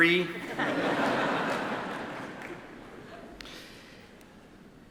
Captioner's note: attendees laugh